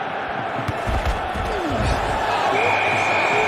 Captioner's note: Mendengus